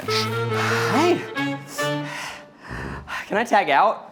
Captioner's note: breathing heavily